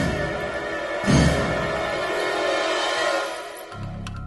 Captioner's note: none